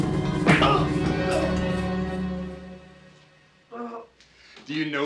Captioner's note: Hudson groans